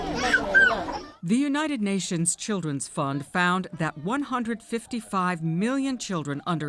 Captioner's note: voice-over